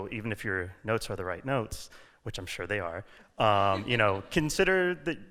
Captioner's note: laughter